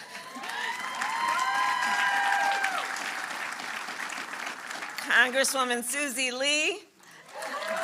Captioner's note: applause; applause